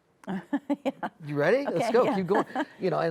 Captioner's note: chuckles